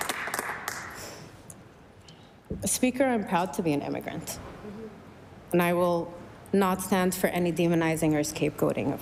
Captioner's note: applause